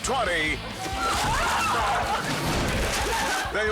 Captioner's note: person screams; exciting music